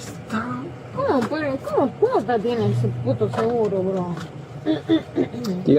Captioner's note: speaking in foreign language